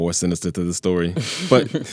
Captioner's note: laughter